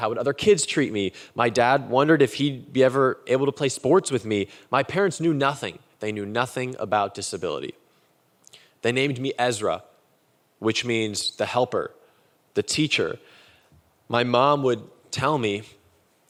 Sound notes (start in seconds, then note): none